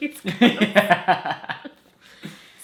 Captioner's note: laughs